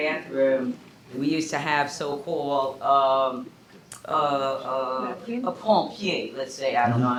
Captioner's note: non-english speech